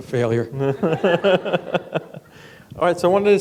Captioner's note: laughter